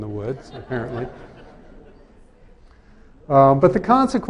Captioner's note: laughter